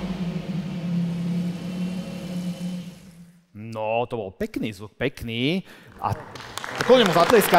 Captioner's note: engine